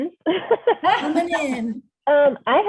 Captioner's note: laughter